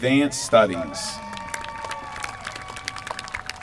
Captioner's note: applause